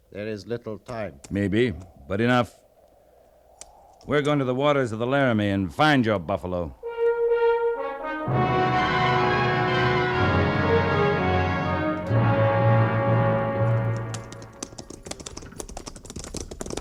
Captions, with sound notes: There is little time. Maybe, but enough. We're going to the waters of the Laramie and find your Buffalo. (dramatic music) (fire crackling)